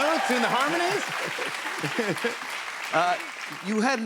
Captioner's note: chuckles